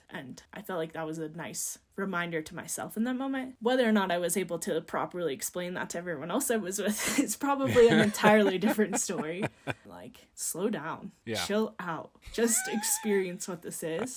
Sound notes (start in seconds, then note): 9.5 laughing